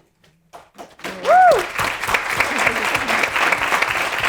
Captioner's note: audience applauding